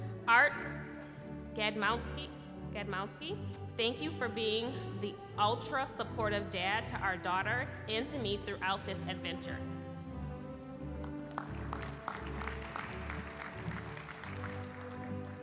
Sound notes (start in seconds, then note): 11.0 applause